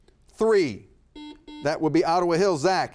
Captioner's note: buzzer buzzes